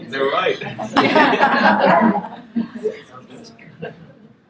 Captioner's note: laughter